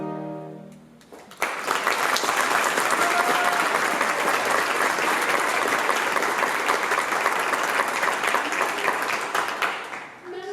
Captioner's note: applause